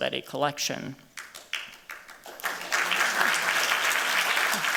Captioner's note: applause